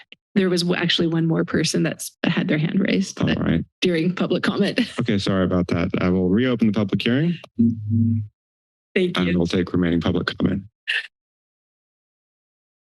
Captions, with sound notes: There was o-, actually one more person that's had their hand raised... -Alright. -...during public comment.[laughter] -Okay, sorry about that. I will reopen the public hearing. I will take the remaining public comment.